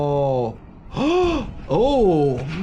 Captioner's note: gasps